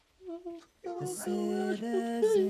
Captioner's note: crying